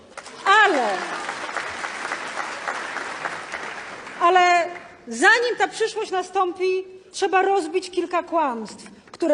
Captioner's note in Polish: Aplauz